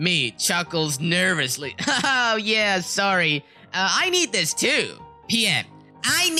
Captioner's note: chuckles nervously